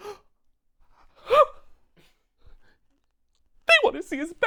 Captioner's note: Gerald gasps